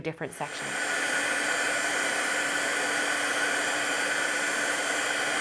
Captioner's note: heat tool whirring